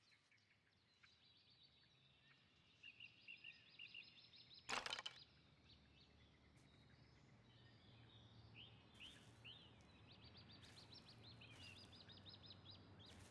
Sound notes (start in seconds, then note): 4.8 wood clacks